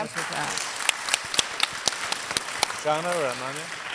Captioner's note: audience applauding